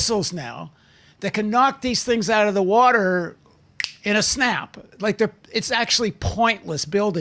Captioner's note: snap's fingers